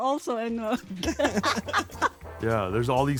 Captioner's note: everyone laughs